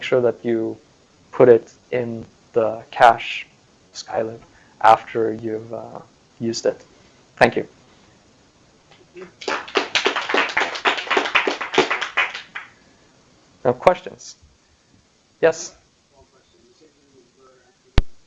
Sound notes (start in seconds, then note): 9.3 applause